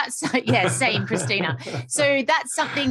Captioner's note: lauighing